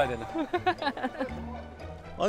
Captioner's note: kekeke